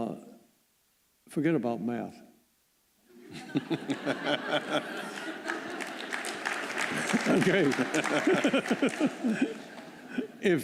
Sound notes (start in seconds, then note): 3.2 laughter; 4.6 applause